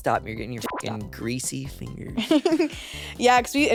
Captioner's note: beep